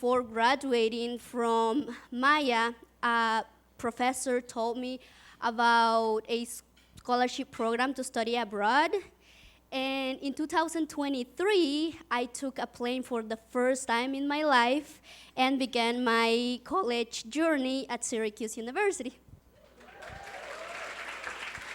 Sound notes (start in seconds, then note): 19.7 audience claps